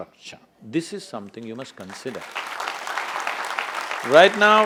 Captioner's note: applause